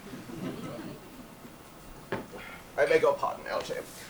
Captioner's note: audience laughs